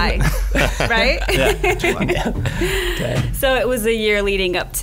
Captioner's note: laughs